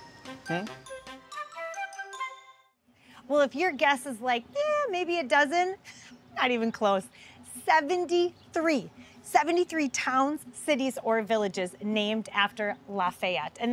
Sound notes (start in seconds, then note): 0.0 light music; 5.8 scoffs